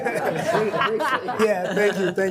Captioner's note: all laughing